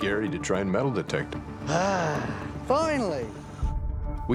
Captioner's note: sighs